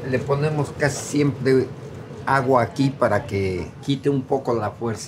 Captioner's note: speaking in foreign language